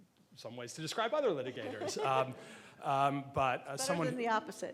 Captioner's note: laughing